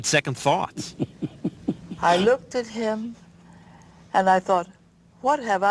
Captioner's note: laugh